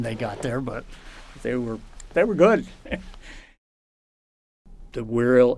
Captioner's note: laughs